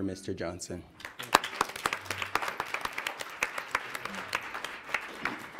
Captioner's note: audience applauds